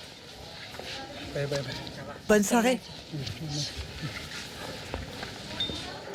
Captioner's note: both speaking foreign language